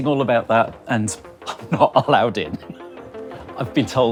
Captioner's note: wheezes